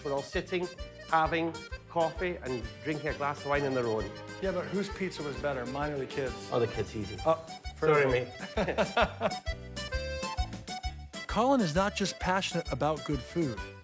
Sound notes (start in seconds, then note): 8.0 laughs